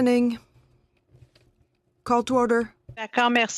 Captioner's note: speaking French